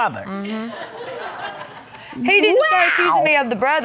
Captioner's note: crowd laughing